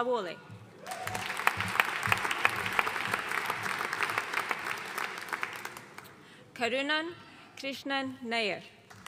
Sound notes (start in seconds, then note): 0.8 audience cheering and applauding